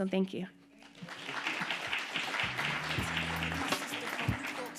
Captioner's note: audience applauding; upbeat music